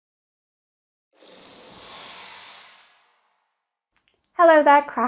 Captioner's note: sparkling sound